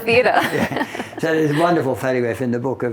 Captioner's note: both laughing